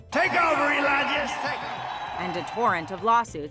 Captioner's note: crowd cheering